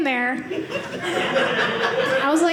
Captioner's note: audience laughing